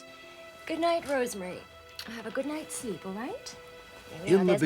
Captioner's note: smooch